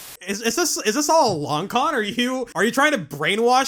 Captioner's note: static